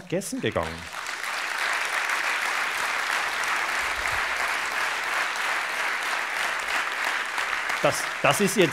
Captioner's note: applause